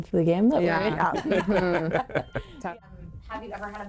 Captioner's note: laughing